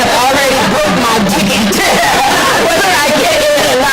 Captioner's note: laughter